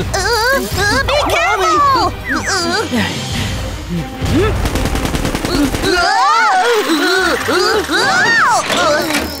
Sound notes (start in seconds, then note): 2.4 all groan, whimper; 4.5 gunfire; 7.1 all groan, whimper